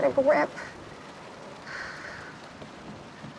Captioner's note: deep exhale